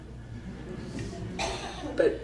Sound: audience laughs

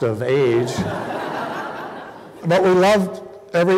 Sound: laughter

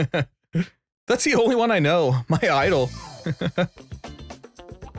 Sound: laughs; laughs

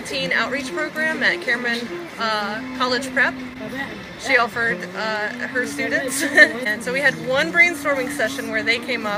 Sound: laughter

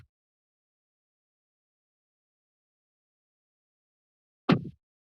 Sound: pause; mic thump

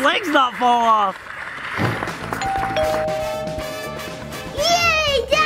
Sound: audience applauds; funky music; doorbell rings

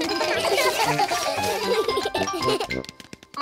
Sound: all giggle

